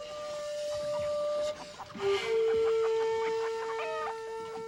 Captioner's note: chickens clucking